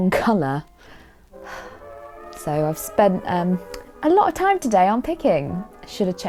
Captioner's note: sigh